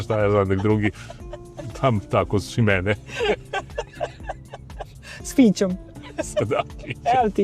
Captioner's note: laughter